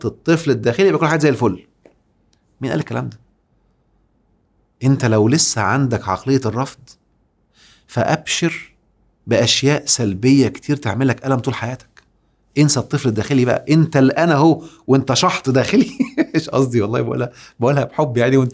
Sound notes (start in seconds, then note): 15.5 laugh!